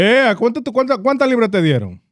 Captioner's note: speaking In Foreign Language